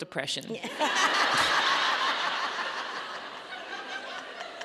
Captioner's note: audience laughing